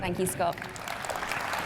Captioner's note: applause